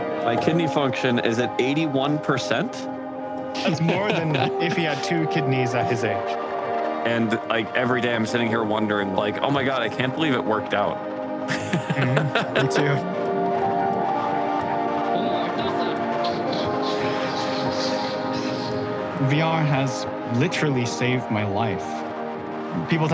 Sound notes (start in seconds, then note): 12.4 laughs; 14.4 gentle music